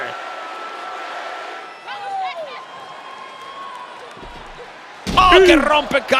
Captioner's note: applause